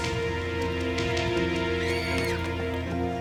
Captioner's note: screaming